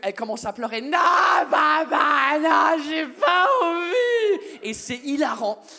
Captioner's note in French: en criant